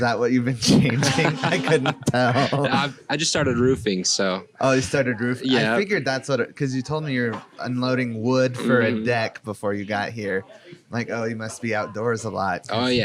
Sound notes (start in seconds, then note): 0.6 laughing